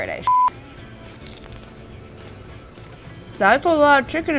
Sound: beep; nacho crunching

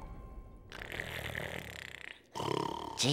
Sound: snoring

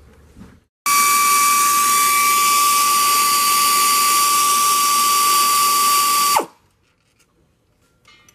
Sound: air ratchet in use

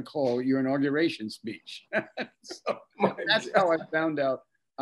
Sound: laughs

